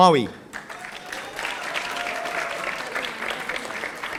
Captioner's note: audience applauding